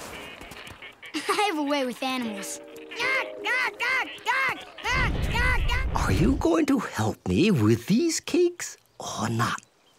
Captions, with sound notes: I have a way with animals. [squawking] Are you going to help me with these cakes or not?